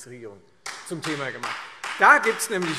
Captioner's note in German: Beifall Freie Demokraten